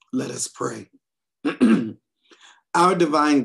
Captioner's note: clears throat